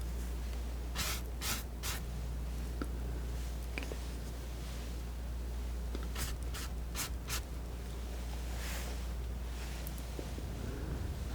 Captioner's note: scratching